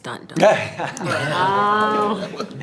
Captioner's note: everyone laughs